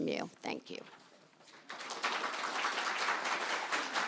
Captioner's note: audience applauds